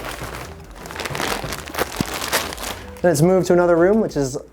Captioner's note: packet crackling